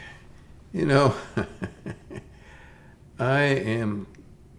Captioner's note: chuckles